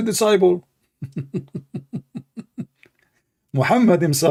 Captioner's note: Ketawa